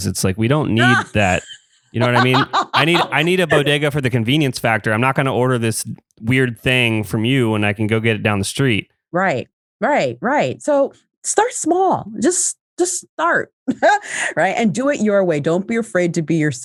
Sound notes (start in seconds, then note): 3.0 laughs; 13.7 laughs